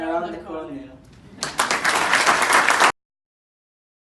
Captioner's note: clapping